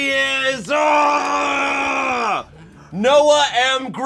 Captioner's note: grunts